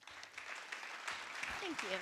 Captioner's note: applause